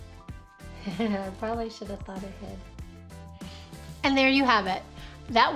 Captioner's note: chuckles